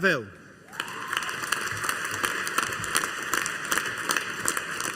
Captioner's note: audience applauding